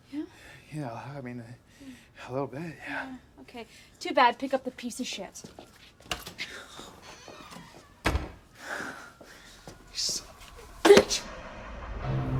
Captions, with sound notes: - Yeah? - Yeah, I mean... A little bit, yeah. - Yeah, okay. Too bad. Pick up the piece of shit. (Lennox sighs) (door creaks) - You son of a bitch!